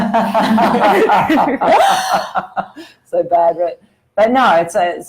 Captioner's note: laughter